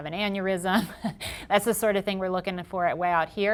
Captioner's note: chuckling